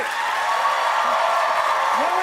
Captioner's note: cheers and applause